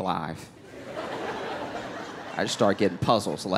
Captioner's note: laughter